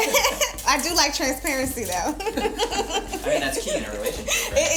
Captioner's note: laughs; laughs